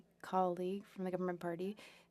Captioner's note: speaking French